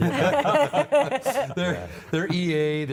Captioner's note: laughter